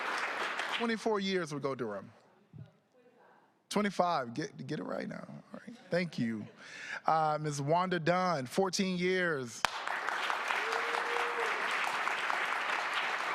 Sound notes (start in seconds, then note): 3.6 applause